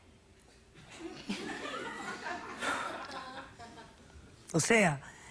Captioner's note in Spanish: Risas